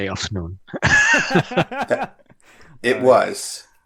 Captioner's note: laughter